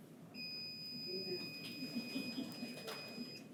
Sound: timer beeps

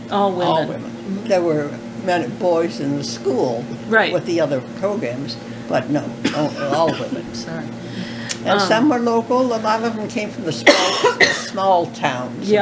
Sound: coughing

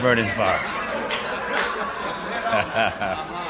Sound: laughter

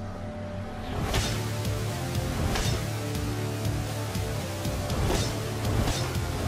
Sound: slicing

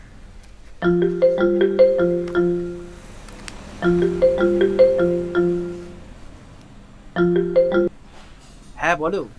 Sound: mobile phone ringing

